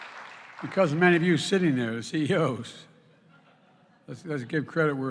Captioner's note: applause; laughter